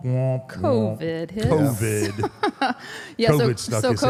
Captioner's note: laughs